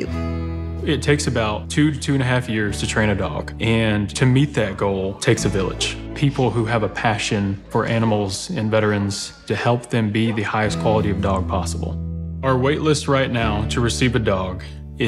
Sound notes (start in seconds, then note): 0.2 gentle guitar music; 4.5 dogs barking